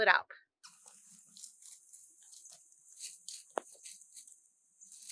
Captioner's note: leaves rustling